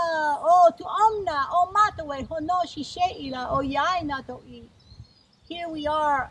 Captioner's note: speaking in Indigenous language